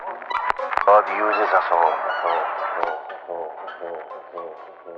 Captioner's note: echoing